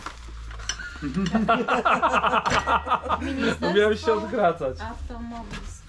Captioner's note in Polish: śmiech